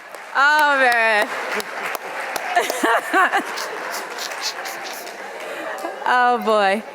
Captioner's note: laughs